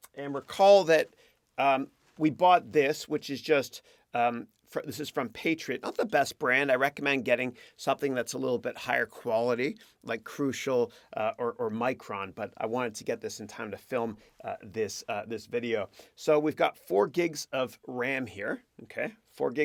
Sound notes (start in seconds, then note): none